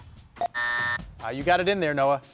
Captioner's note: buzzer beeps